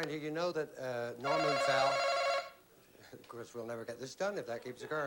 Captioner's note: bell chimes